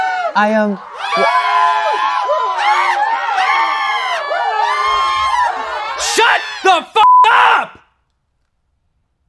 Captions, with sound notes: I um, (crowd cheering even louder) Shut the (beep) up.